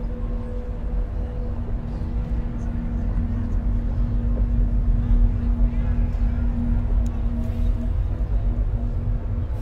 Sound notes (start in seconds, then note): 0.0 low droning; 5.9 distant voices echo